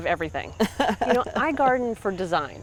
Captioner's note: chuckles